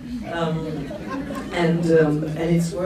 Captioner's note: laughs